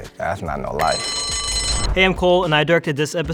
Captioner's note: bell rings